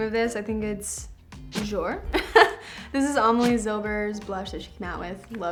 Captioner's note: chuckles